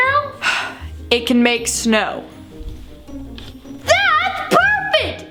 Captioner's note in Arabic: تنهدات